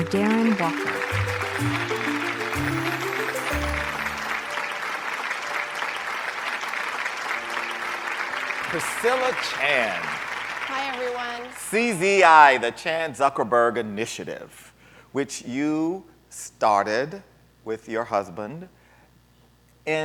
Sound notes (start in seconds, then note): 3.0 audience clapping